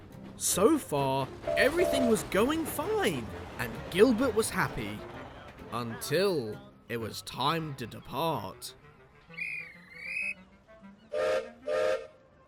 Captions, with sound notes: So far, everything was going fine and Gilbert was happy until it was time to depart. [GUARD BLOWS WHISTLE] [GILBERT WHISTLES]